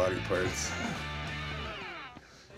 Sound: chuckling

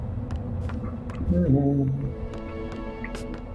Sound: humming

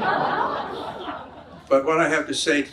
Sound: audience laughs

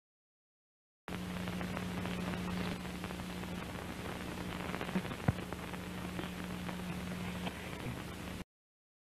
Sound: static

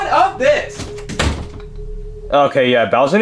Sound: door thuds

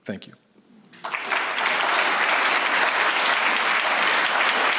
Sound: audience applauding

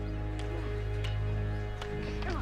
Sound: clacking continues

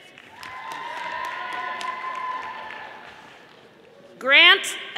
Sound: audience applauding

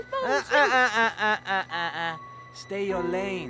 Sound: foreign language

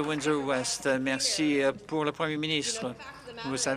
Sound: applause

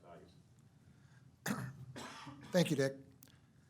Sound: coughing

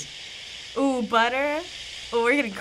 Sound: butter sizzling

